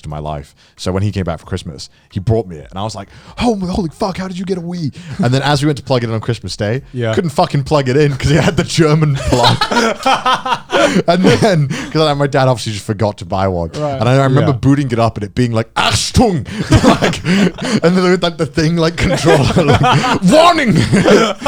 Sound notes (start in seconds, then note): 9.5 laughing; 14.7 foreign language; 14.7 laughing; 21.2 laughing